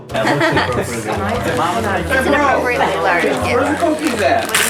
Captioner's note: family chattering